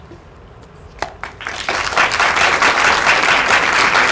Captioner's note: applause